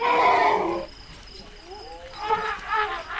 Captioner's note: elephant trumpets